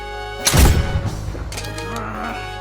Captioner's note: gun Shot